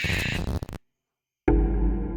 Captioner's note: owl screeching